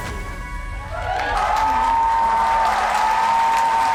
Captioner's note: audience cheers